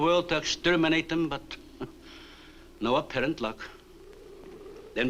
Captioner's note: chuckles